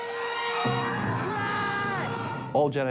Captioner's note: shouting